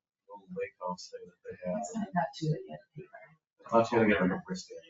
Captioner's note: speaks distantly; people speak distantly